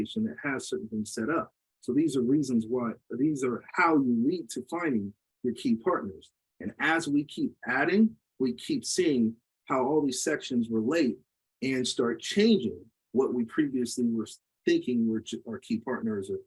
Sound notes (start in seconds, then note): none